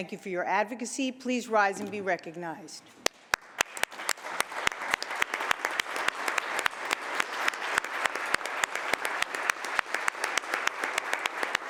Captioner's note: applause